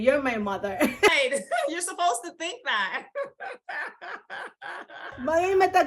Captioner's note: laughs; laughs